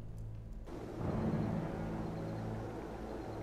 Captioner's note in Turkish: Rüzgâr sesi